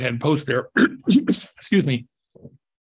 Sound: coughs

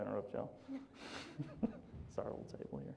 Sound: laughs

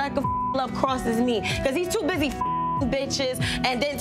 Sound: beep; beeps; beeps

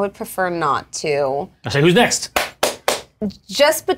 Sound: claps hands

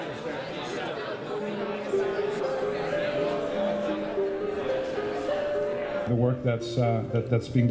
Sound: crowd noise

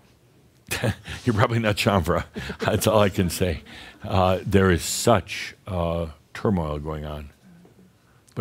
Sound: Adamus chuckles

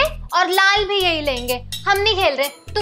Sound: none

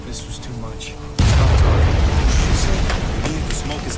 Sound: explosion

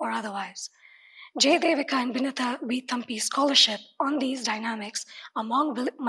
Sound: speaks in foreign language

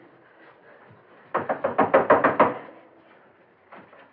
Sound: knock On Door

